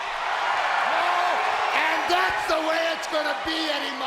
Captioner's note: audience cheers